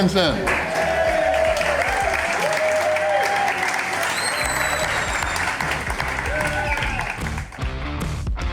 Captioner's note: crowd clapping and cheering